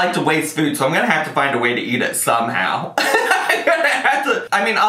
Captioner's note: laughs